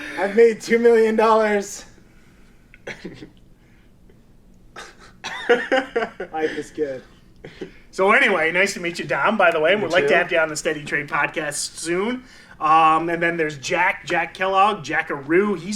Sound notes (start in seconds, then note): 4.7 laughing